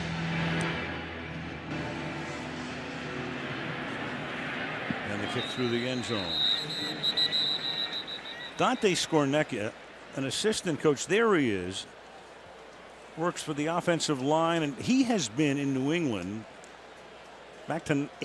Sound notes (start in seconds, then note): 7.1 whistle